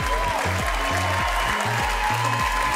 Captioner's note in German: Jubel, Applaus, Pfiffe